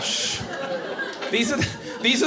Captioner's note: audience laughing